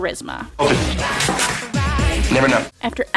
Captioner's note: sprays